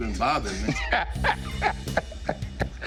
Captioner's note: laughter